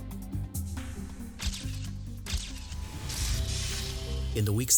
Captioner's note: camera shutters